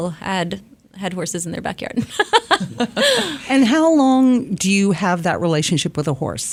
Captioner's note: laughs